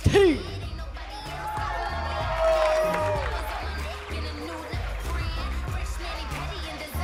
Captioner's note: cheers and applause